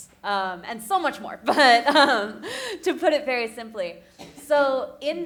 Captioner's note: laughing